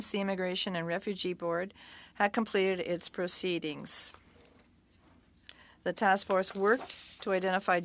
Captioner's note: speaking French